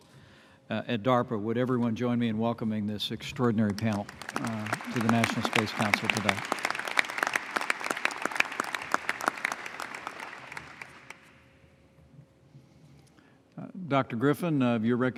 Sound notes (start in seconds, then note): 6.4 applause